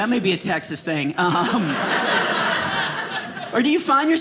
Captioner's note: audience laughing